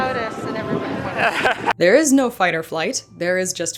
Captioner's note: laughs